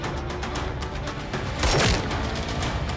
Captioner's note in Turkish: Silah sesi